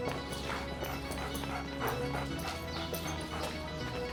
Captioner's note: uptempo synth music; dog panting; uptempo synth music